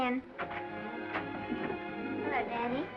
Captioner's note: gentle music; door unlatching